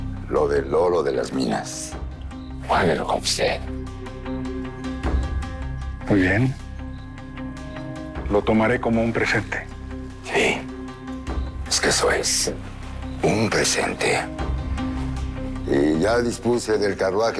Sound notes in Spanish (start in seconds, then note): none